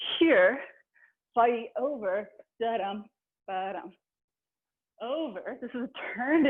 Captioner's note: vocalizing a rhythm